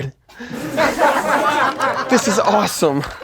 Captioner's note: laughing